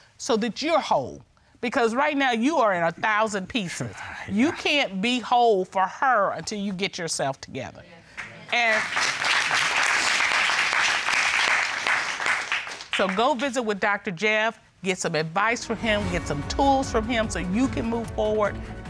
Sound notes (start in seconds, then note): 8.5 audience applauds